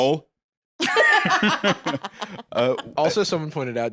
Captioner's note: laughs